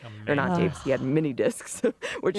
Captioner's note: laughs